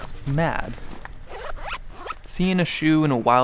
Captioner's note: zipper opening